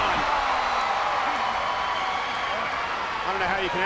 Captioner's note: audience cheering and clapping